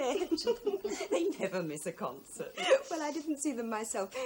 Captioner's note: Anne laughs